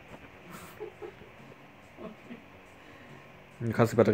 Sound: laughs

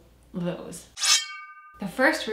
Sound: blade swishes

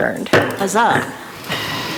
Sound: gavel taps

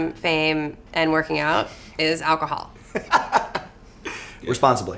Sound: laughs

